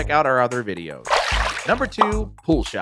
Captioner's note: water splashing